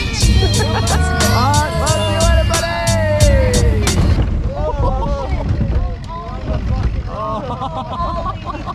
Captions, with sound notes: - Alright see ya later buddy! (laughing)